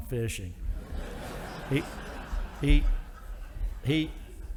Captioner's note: audience laughing